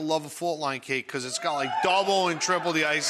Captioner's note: audience cheering